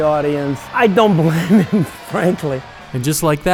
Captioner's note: chuckling